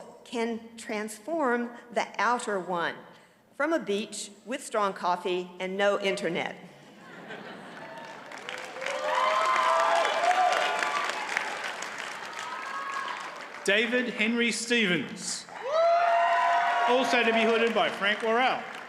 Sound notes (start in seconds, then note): 6.8 audience chuckles; 7.7 audience cheers and applauds